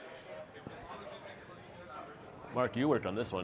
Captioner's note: crowd chattering